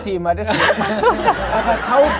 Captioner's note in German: Lachen